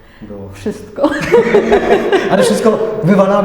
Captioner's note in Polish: śmiech